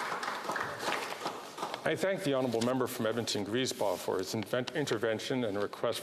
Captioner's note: speaking indigenous language